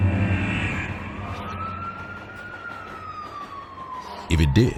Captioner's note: siren wailing